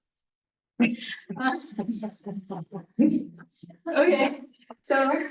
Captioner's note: attendees laughing